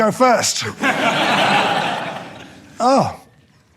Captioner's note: audience laughing